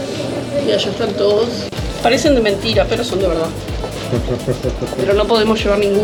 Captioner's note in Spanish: risas